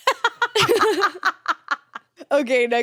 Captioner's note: laughs; chuckles